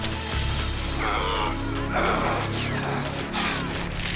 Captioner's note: Lamont groans